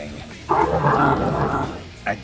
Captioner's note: Bruiser Brothers burbling